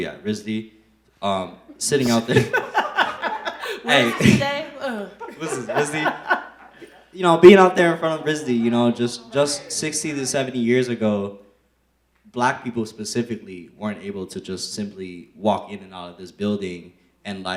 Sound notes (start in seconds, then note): 1.7 laughs